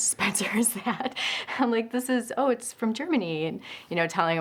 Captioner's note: laugh